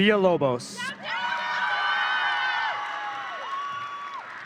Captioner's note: audience cheering